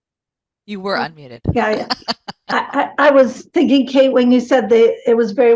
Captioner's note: giggles